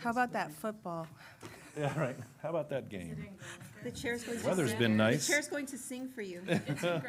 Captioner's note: laughter